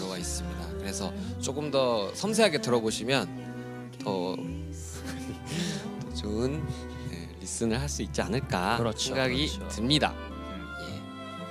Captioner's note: loses it lmao